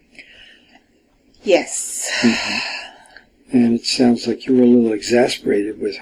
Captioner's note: sighs